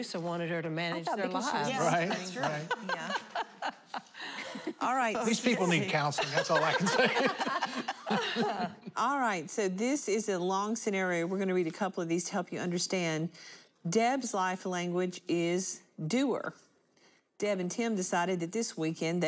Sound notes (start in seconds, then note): 1.8 laughter; 6.1 laughter